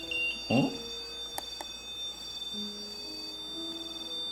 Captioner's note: The sound of the choco-pie and the beep equipment; The sound of the choco-pie